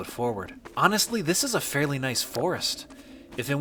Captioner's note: wind blowing